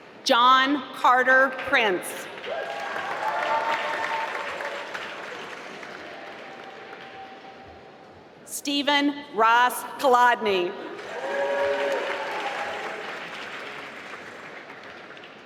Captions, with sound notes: John Carter Prince (applause) Steven Ross Kolodny (applause)